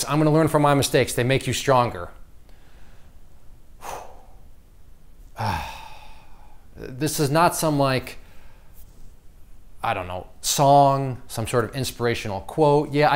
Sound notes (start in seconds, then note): 3.3 sighs